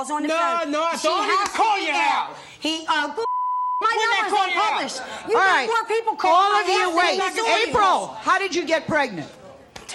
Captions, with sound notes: No, no, I don't even call your house. She has to be there. (beeps) When do I call your house? My number's not published. You have more people call my house than-- April, how did you get pregnant?